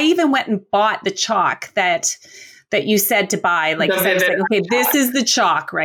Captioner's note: murmurs